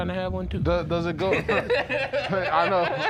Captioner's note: laughter